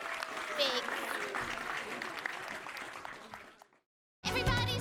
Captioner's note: laughing; applause